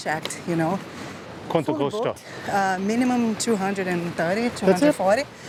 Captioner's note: in Portuguese